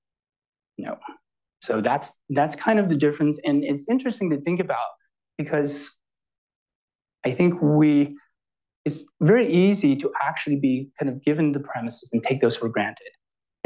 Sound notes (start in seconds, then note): none